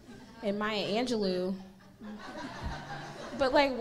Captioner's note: audience laughing